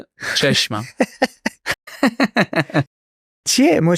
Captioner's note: laughs